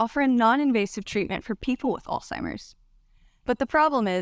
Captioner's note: none